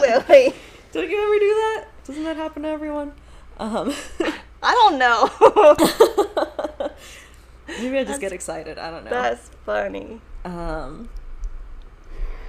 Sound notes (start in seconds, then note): 5.2 laughs